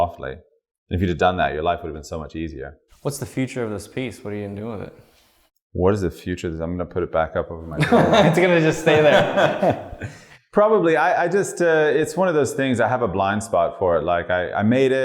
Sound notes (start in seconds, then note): 7.7 laughter